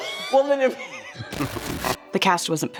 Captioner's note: laughs